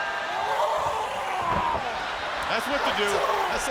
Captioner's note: the Giant roars